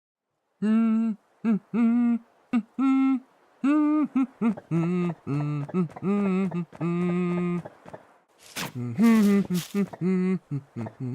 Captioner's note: villager humming the theme